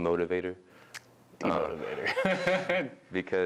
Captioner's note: snaps fingers